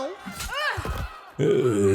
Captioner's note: slash sound